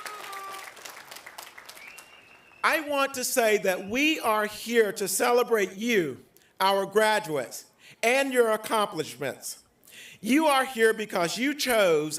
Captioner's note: applause